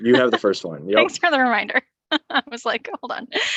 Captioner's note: laughs